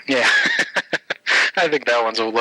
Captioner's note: laughing